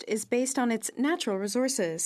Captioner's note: speaking French